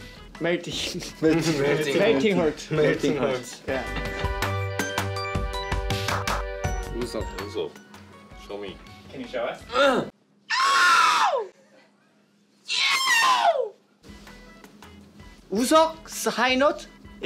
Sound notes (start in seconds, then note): 10.1 clears throat; 10.1 hits high note